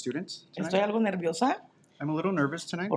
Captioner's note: speaking in Spanish